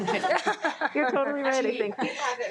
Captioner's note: trustees giggling